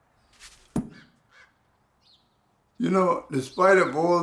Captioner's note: dart thudding